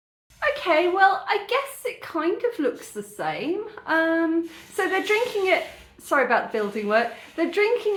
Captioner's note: loud drilling